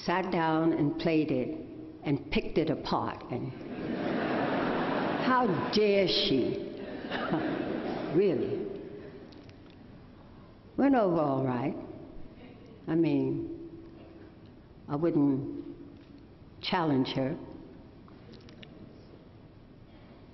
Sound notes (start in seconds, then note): 6.8 laughter